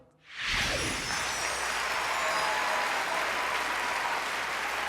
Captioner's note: audience cheering